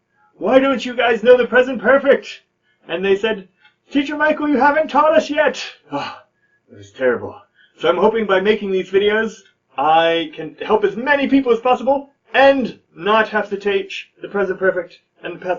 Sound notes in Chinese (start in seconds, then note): 5.8 嘆氣